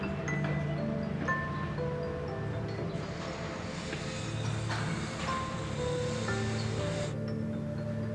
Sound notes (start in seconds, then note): 2.4 construction sounds